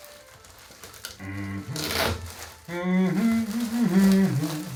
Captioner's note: plastic crinkles; dad hums